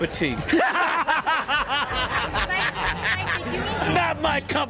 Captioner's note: laughs manically